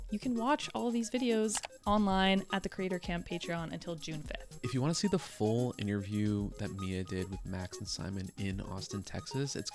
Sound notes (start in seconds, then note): 1.5 computer mouse clicking; 3.3 upbeat music